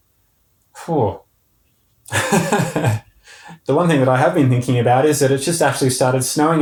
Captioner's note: sigh and laughing